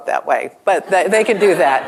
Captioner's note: laughter